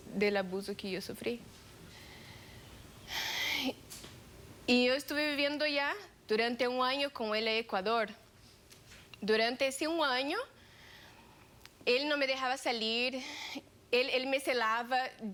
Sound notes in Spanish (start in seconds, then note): 3.0 exhala